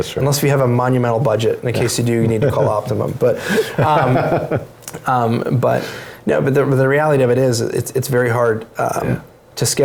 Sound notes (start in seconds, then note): 3.4 laughs